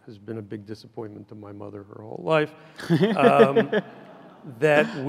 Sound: laughs loudly

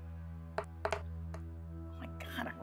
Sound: dice thudding

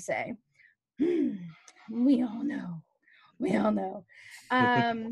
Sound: clears throat

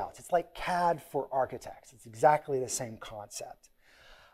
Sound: none

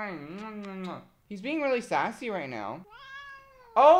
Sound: meows

